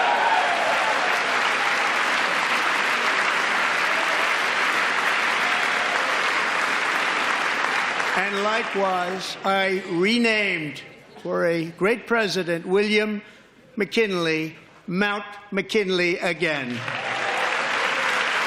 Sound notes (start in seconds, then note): 0.0 applause; 4.3 applause